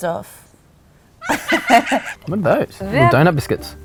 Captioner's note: maniacal laugh; laughs